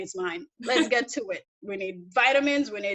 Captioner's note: laughs